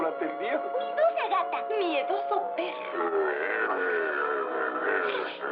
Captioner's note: growls